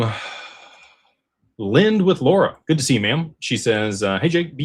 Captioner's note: sighs